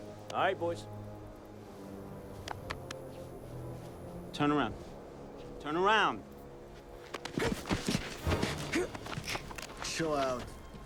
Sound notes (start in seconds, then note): 6.6 soldiers scuffling; 8.6 tense music